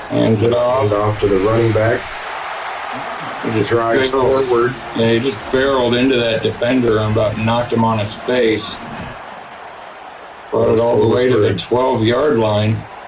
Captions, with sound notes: Hands it off. Off to the running back. [Crowd noise] They just barreled into that defender and about knocked him on his face. Brought it all the way to the 12 yard line.